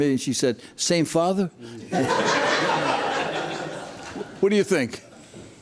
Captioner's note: spectators laugh